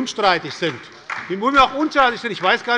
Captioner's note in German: Beifall bei der SPD